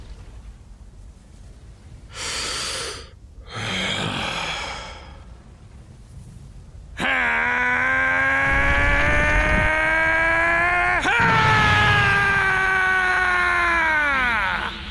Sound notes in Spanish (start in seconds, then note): 2.1 Exhala; 2.1 Inhala; 7.0 Gritos